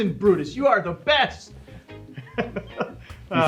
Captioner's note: laughter